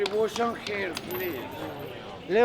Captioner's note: coin clinks